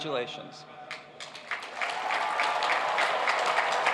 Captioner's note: cheers and applause